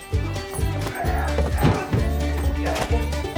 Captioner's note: brawling noise